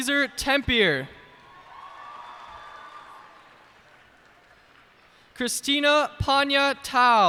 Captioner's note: cheers and applause